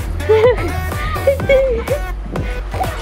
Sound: giggle

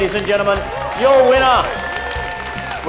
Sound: audience cheering and applauding

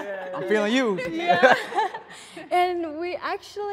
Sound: laughing

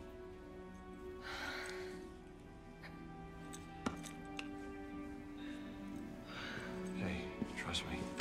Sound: sighs

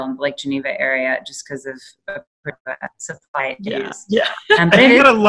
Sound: audio cutting out

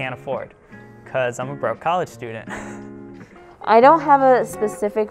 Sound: chuckles

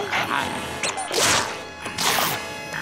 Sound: squeaking

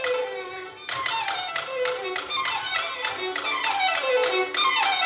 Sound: metronome ticking

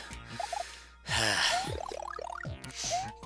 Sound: sigh

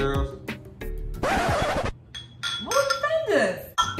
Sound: record scratch

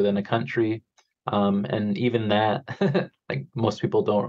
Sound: chuckles

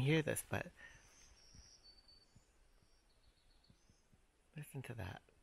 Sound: birds chirpping

